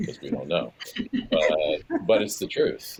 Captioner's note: panelists laughing